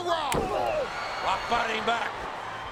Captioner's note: wrestlers grunt